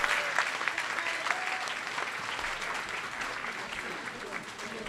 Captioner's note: audience applauding